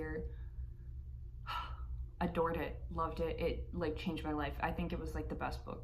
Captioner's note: sigh